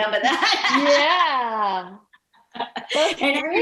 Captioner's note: laughing